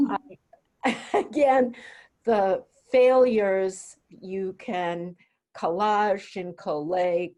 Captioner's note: chuckles